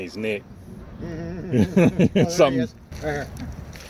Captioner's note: laughs